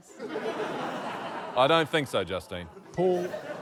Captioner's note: laughter